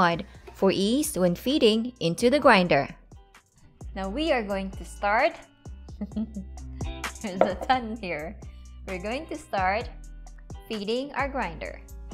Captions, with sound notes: for ease when feeding into the grinder. Now we are going to start... [Chuckles] There's a ton here. We are going to start feeding our grinder.